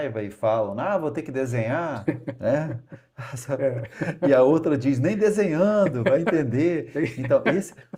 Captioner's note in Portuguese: risadas